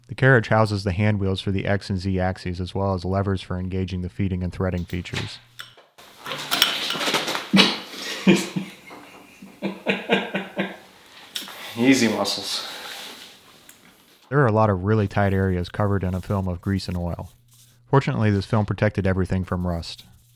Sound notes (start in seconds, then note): 7.0 falling to the ground; 7.4 laughing